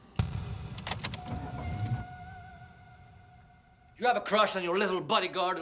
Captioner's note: engine starts